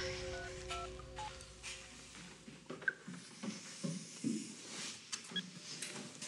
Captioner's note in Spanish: sonido al marcar